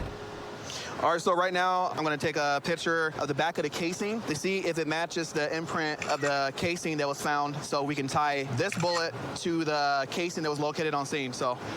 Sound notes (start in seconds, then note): 6.0 camera app clicks